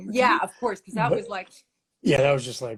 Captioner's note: laughs